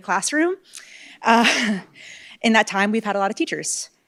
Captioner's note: laugh